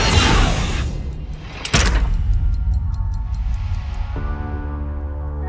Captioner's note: boom resounds; clock ticking; calm piano music